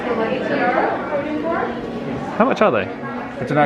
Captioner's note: indistinct chatters